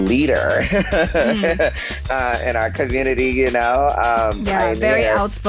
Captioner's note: laughs